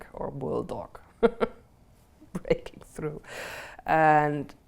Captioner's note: laughs